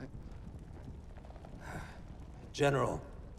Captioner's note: sighs aggressively